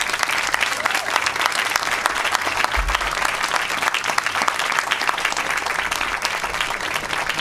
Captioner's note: applause